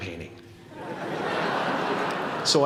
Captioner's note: laughter